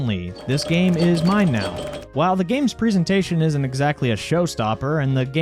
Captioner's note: pinball noises